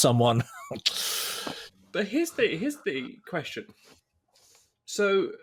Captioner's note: sucks teeth